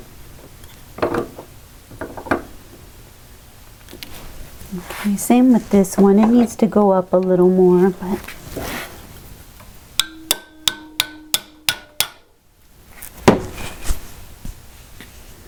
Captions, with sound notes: Same with this one, it needs to go up a little more. *taptaptaptap*